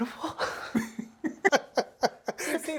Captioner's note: laughing